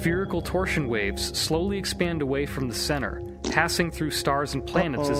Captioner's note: fart noise